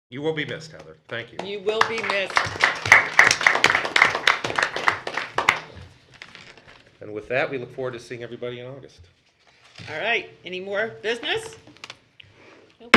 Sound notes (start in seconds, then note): 3.4 group clapping